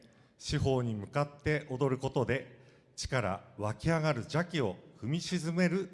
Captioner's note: speaking foreign language